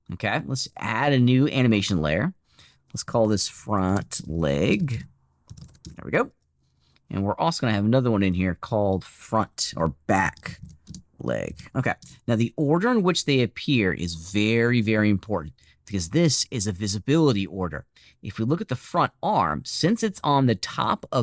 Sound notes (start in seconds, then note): 5.5 keyboard clicking